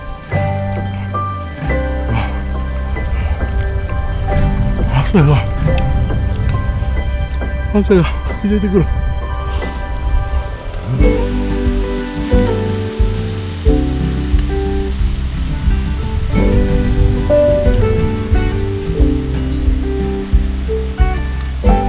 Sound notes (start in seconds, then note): 16.0 haha